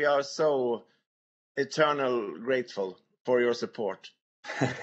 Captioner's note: laughter